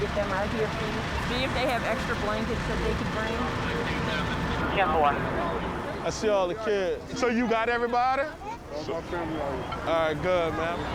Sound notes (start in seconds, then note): none